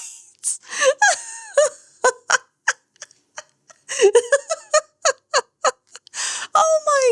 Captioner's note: laughter